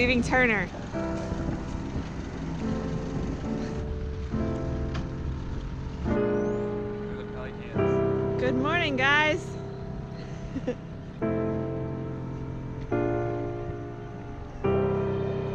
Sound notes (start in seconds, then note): 3.7 calm music; 5.8 boat engine; 10.9 calm music